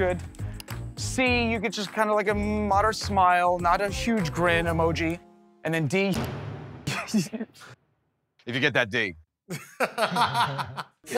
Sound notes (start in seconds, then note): 6.8 chuckles; 9.6 laughs